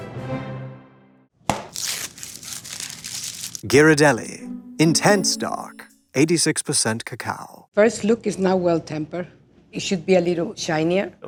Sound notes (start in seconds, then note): 0.0 classical music; 1.5 wrapper tears